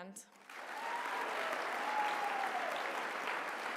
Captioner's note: applause